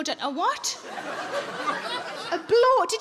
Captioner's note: audience laughs